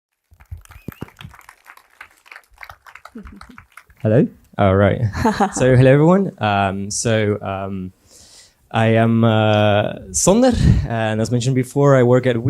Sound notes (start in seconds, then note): 0.1 applause; 3.0 laughs; 5.0 laughs